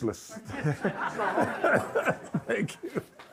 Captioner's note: audience and Harry laugh